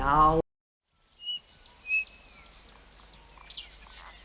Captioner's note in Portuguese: Canto de pássaros